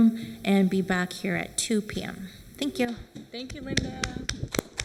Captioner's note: applause